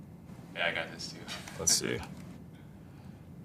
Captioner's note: laugh